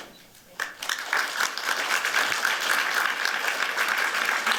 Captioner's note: applause